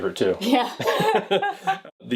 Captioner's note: laughing